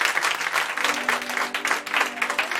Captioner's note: applause